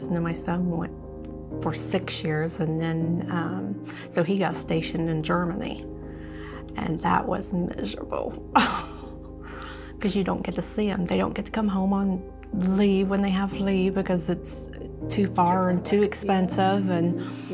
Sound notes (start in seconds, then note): 9.2 laughs